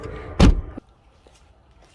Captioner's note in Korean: 문닫는 소리